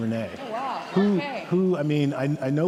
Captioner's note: audience laughing